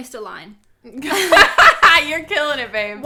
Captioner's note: both laughs